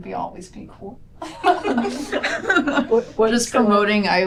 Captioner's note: laughter